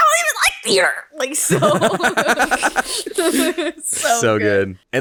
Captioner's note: all laughing